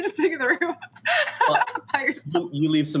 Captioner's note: laughing